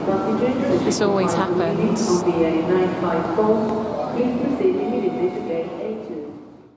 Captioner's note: female voice on tannoy; tannoy announcement continues